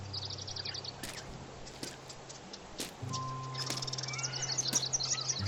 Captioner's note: birds chirping